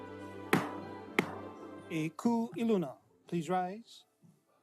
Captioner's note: gavel bangs twice